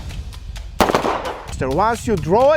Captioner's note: gun firing